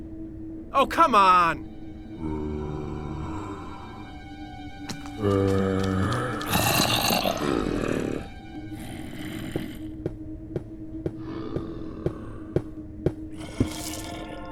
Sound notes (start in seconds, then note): 2.2 zombie groans; 9.5 sound of digging from beneath the ground